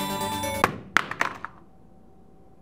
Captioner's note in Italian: Rumore di console che cade